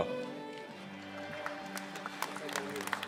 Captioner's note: applause